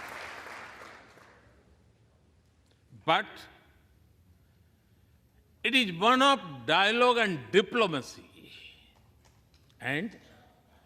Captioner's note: applause